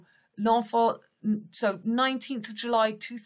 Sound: speaks in French

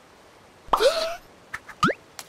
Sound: Airrack gasps

